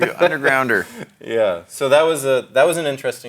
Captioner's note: laughs